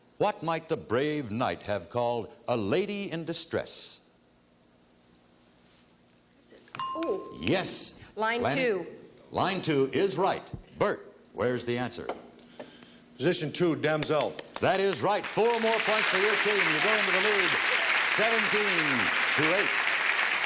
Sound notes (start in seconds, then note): 7.5 ting